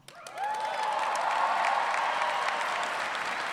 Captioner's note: cheering